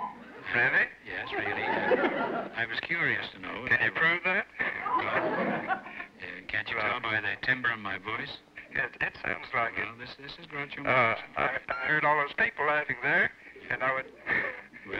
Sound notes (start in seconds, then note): 0.2 on phone; 4.1 on phone; 8.5 on phone; 11.8 on phone